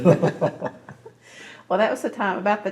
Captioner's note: laughs